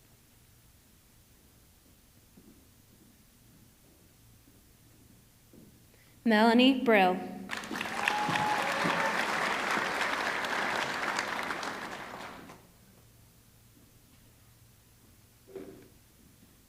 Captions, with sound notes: Melanie Brill, (audience clapping) (audience cheering)